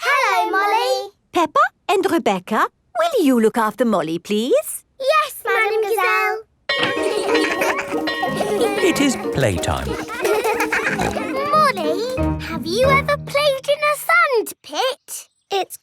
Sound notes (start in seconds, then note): 6.7 bell ringing; 6.8 laughing; 10.4 peppa snorting